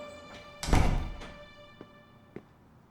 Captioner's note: door slamming